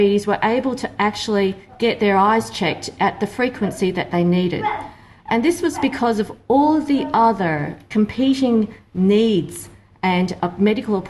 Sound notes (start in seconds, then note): none